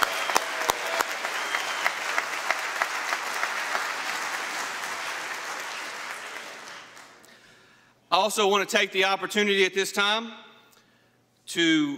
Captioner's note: applause